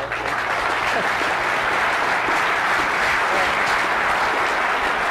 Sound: audience applause

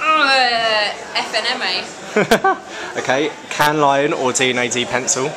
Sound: chuckles

